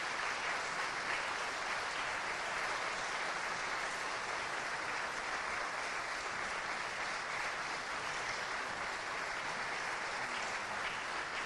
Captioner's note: applause